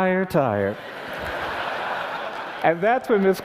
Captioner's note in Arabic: ضحك